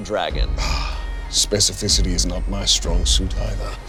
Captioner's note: sighs